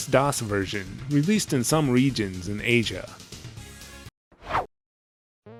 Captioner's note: whoosh